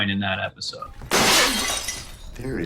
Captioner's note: glass shattering